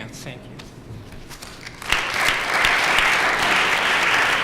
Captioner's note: applause